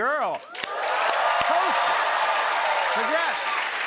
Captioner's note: cheers and applause